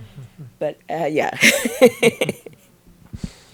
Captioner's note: laughs